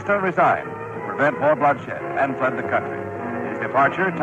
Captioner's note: archival news audio